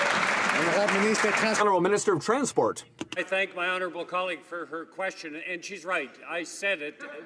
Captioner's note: applause